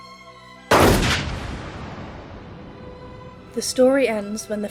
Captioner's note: gunshot